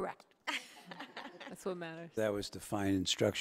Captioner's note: people laughing